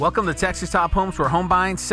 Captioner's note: light guitar music; voiceover